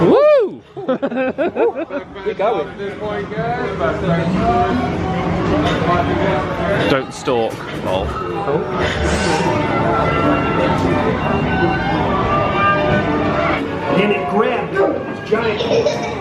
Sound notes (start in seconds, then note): 0.8 laughs; 3.6 people chattering; 8.9 cheerful music; 8.9 people chattering